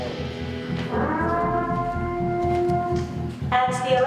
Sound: Purge siren

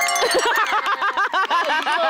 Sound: clapping

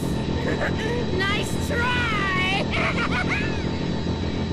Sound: laughs maniacally

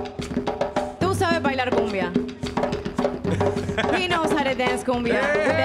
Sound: speaking in Spanish

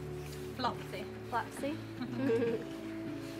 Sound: laughs

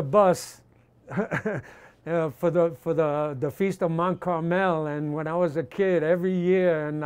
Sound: laughs

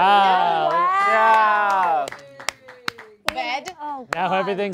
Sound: group cheering

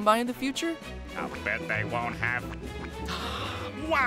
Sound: gasping

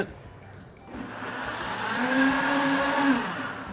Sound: blender whirs

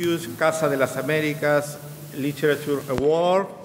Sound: speaking in a foreign language

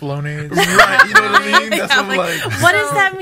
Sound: everyone laughing

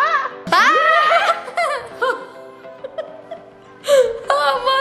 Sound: laughing

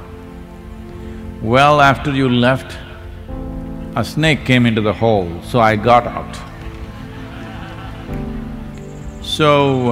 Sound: laughter

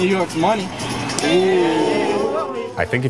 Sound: crowd oohing

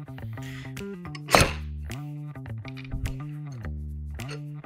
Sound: pump clanking

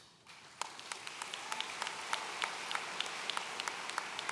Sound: audience applauds

